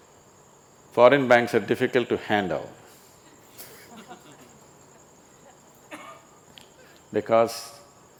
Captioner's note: laughs